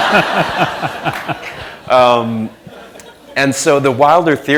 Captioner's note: laughter